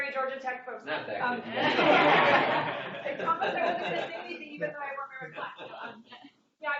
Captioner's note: laughter